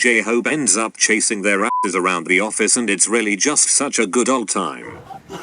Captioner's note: beeps